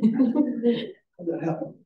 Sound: audience chuckling

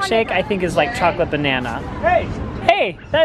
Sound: loudspeaker

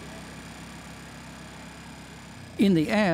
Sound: motor running

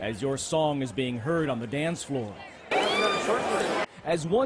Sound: cheers and applause

